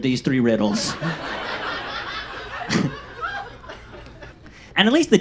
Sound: audience laughs

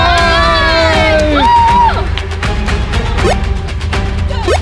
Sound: cheers loudly; jump squeaks

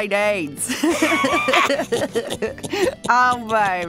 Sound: laughter

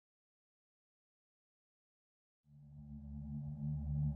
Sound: silence

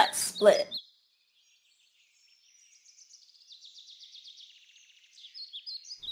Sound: birds

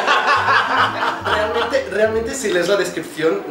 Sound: laughs

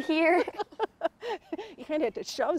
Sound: both laugh

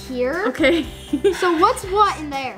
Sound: laughs

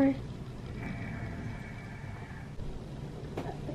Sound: snoring

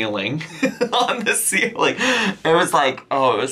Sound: laughing

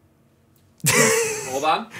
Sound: laughing

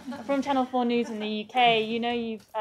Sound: laughter

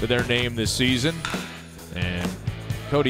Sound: crack of the bat

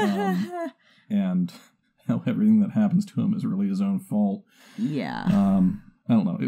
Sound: laughs; chuckles

